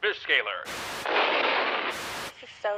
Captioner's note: explosion